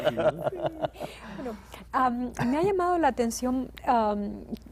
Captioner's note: ríen